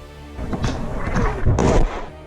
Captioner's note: artillery Incoming